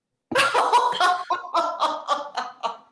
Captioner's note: laughter